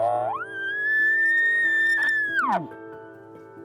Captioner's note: elk calling